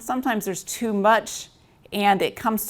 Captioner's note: none